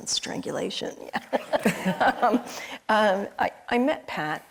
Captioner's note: crowd and laughing